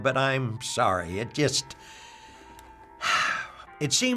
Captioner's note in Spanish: suspiros